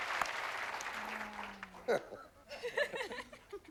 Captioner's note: laughs